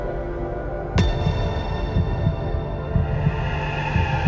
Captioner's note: heartbeat thumps; soft musical score; eerie music